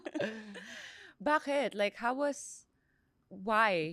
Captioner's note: laughs